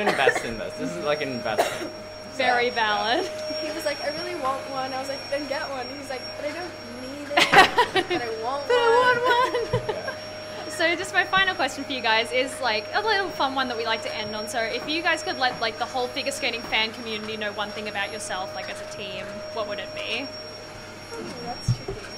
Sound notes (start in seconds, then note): 7.3 laughter